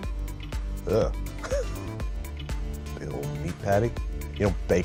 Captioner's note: laughs